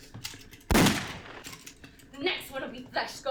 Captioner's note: gun shot